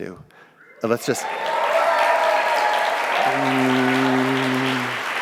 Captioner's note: audience cheering